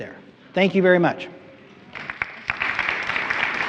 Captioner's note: applause